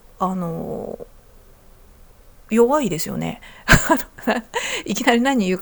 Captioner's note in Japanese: 笑い